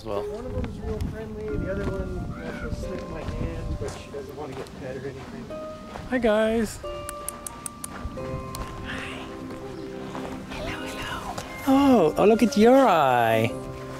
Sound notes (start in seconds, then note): 7.0 tongue clicks